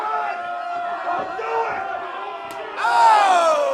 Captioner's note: loud slap